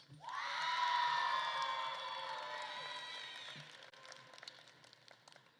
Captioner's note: attendees cheering and applauding